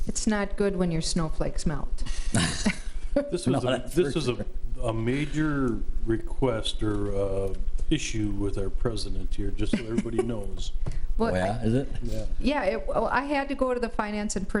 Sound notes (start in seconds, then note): 3.2 trustees laugh; 9.6 laughs